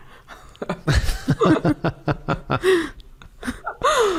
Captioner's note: laughter